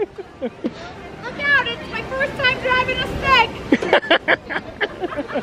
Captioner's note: laughs